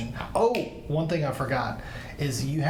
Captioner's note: snaps fingers